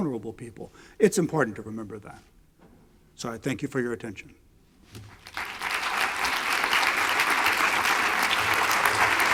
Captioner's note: clapping